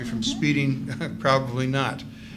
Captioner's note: laughs